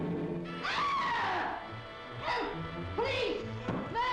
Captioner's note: screams